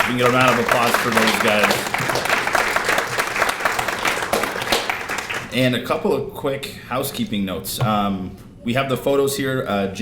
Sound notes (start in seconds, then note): 2.2 applause